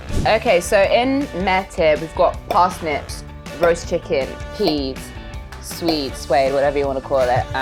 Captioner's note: none